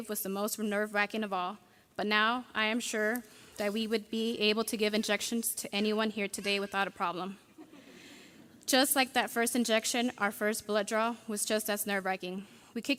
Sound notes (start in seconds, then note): 7.5 audience laughing